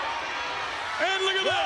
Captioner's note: spectators cheering